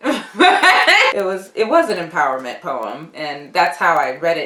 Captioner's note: laughs